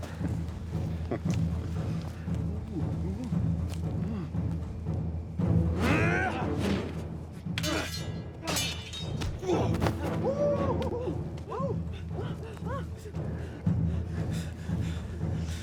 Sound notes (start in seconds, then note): 0.8 Orn laughs; 5.8 Orn grunts; 5.8 sword whooshes; 7.5 swords clanging; 7.6 warriors shouting; 9.3 Orn grunts